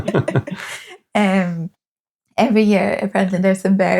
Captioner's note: laughing